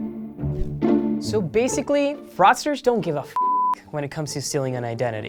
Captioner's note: beep